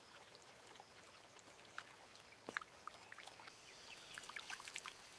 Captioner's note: nature sounds